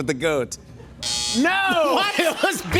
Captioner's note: buzzer